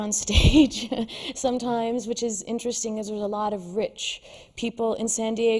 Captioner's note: laughs